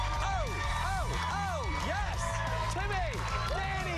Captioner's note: cheers and applause